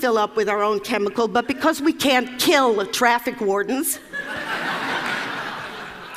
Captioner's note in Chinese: Laughter; 笑聲